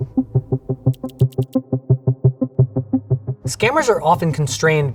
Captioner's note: inquisitive music; text whirring